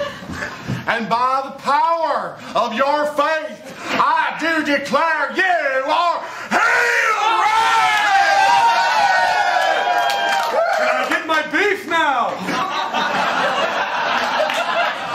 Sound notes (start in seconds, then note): 7.2 cheers and applause; 12.3 laughter